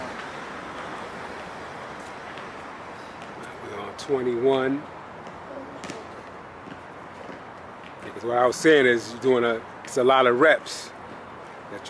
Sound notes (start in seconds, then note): 5.8 basket ball tapping